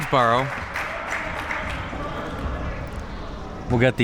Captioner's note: spectators applauding